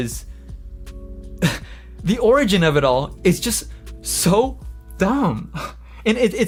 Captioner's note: chuckles